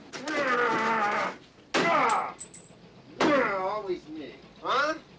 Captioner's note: machine thuds; Slim grunting